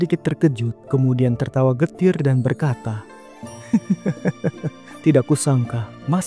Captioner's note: laughs